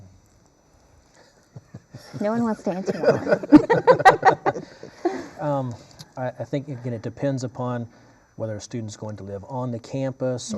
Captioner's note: laughter